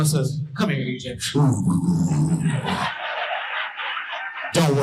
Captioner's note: imitates oral sex sounds